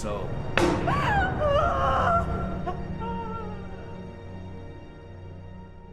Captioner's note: dramatic music; crying; dramatic music